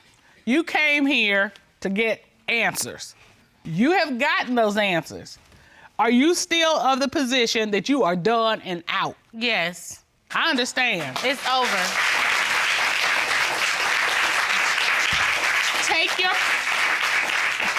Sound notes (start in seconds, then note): 12.0 applause